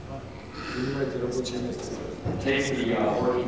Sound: non-english speech

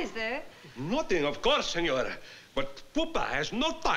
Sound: italian

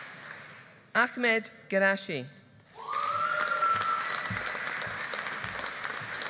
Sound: audience applauding

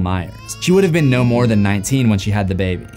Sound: baby crying

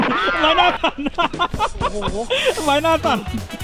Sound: laughing

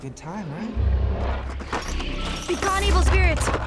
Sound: box rattles, ghostly whispering

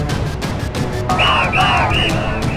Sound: crowd Cheers

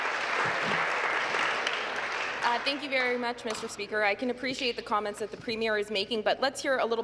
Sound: applause

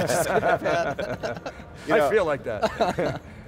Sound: laughing; laughing

